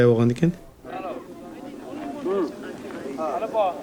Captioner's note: man speaking foreign language